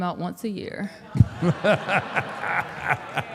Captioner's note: audience and Mark laughs